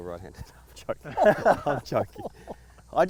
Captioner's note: everyone laughing